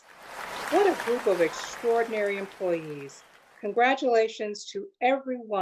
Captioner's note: applause